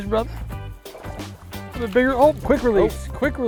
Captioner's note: fish splashing